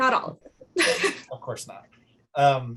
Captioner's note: laughs